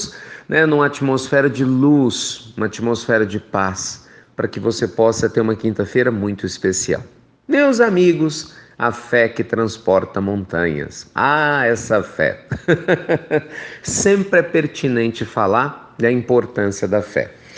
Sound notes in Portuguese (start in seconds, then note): 12.4 risos